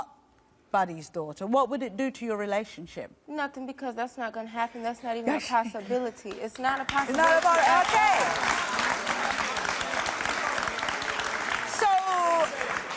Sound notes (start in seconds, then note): 6.6 audience applauding